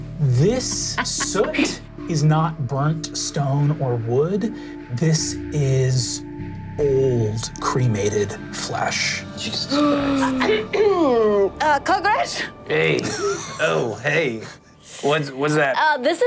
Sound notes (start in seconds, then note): 9.8 players gasping